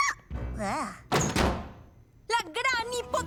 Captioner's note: door opens